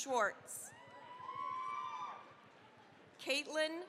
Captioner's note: cheering, applause